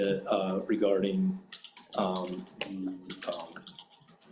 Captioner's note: keyboard clacking